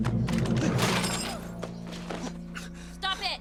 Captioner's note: glass breaks